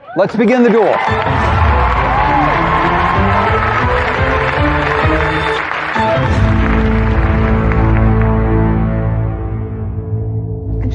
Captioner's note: cheering and applause; dramatic music